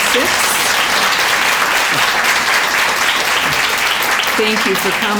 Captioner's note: applause